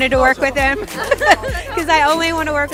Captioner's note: laughing